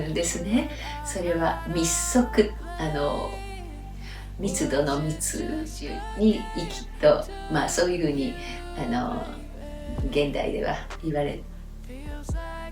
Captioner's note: close breathing